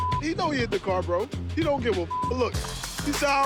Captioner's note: beeps